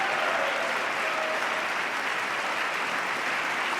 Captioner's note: applause